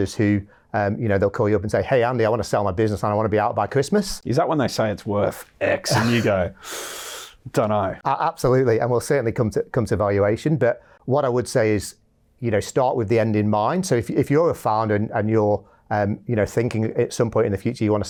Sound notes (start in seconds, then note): 6.5 inhales deeply